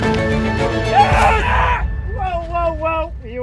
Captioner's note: roar